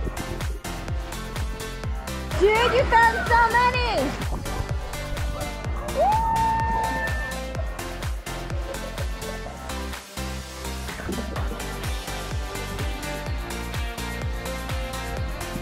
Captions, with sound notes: Jude, you found so many! (cheering) (upbeat music)